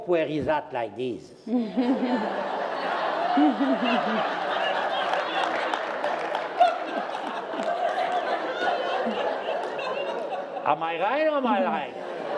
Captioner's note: laughter